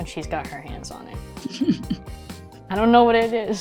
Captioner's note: laugh